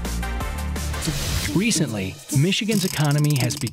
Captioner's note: voiceover